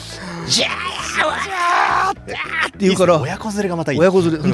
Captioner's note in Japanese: 叫び声